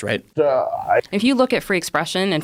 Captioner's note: confused mumbling